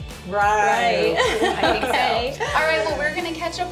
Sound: laughs

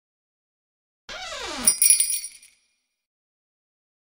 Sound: sound of doorbell

